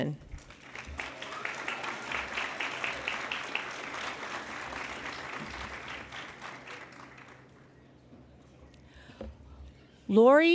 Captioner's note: applause